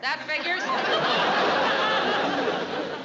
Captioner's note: laughter